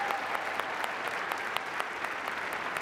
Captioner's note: applause